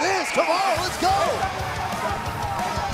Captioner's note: laughing